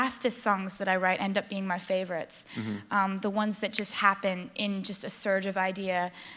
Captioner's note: snapping fingers